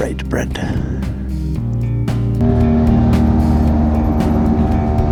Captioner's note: engine revving